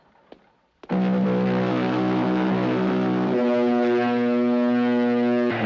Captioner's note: Buzinas tocando